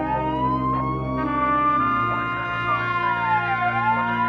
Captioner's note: siren blaring